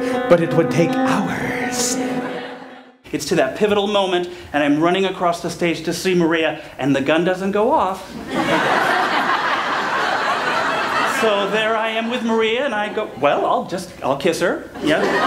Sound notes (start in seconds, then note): 8.2 laughter; 14.8 laughter